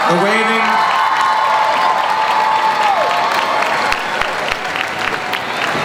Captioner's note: crowd cheering